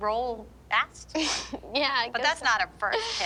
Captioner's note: laughs